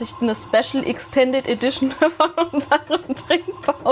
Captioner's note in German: gelächter